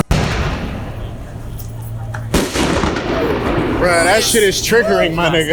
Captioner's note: fireworks exploding